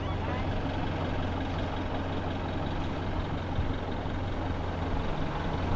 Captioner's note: boat engine rumbling